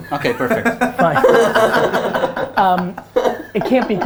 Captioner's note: group laughter